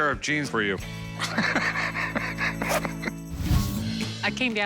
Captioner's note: laughs